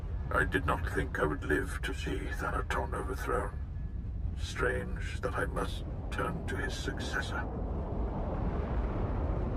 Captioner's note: wind howling